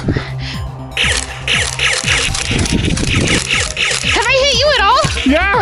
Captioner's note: Nerf blaster firing